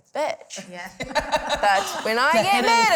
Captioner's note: laughter